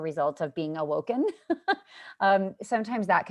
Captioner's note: laughter